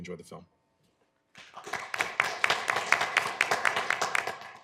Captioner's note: applause